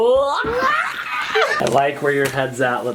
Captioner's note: silly noises